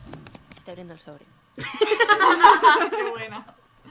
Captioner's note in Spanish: risas